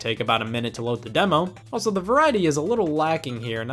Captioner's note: none